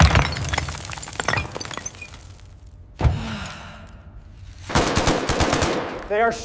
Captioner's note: sighs